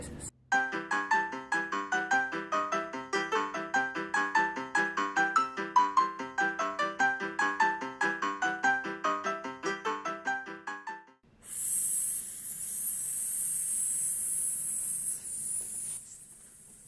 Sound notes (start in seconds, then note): 11.4 exhaling and hissing sounds